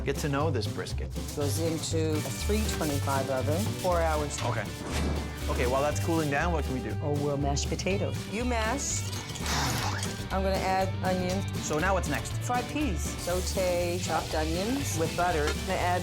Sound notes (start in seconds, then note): 1.2 foil rattles; 5.0 logo whooshes; 9.4 John blows out